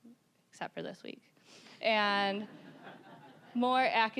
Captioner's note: audience laughing